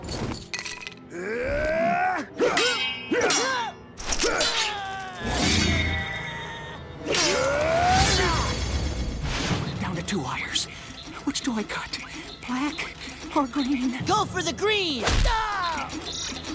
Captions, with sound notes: [grunting] [grunting] Down to two wires. Which do I cut, black or green? Go for the green! [grunting]